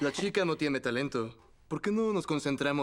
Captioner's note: voiceover